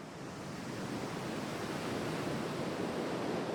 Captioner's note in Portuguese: sons de ondas do mar